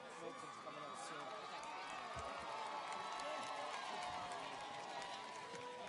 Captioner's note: audience cheers and applauds